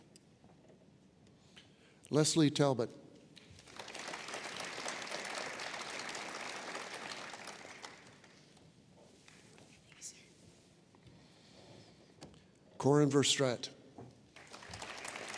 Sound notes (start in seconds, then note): 3.4 applause